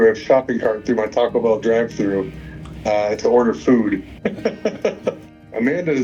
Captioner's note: chuckles